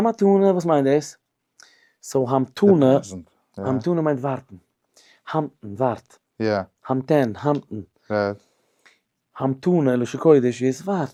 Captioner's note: hebrew